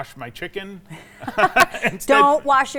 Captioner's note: both laughing